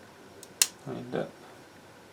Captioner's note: snapping